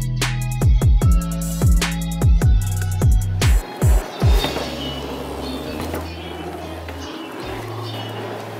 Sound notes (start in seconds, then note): 3.4 bike tires whirring